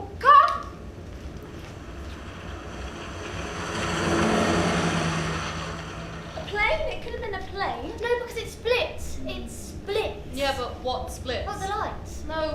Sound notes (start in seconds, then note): 0.8 sound of passing car